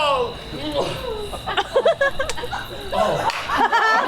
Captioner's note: Flute smacks lips loudly, moaning